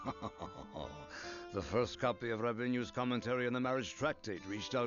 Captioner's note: laughs